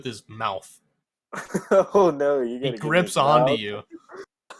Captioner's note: laughs